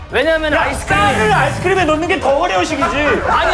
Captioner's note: rapid Acceleration